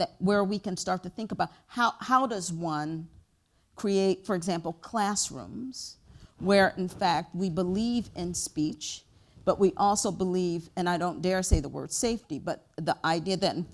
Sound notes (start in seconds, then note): none